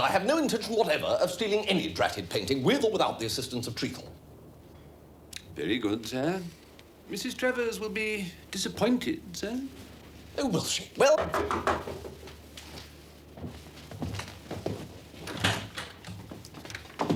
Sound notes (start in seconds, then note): 11.1 knocking